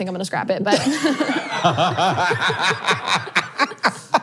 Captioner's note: all laughing